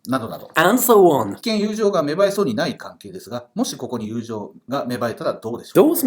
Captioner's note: speaking Japanese